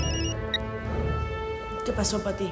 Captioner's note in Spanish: Suena el celular